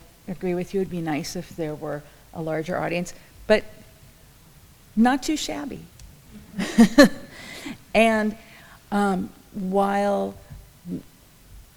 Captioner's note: laughs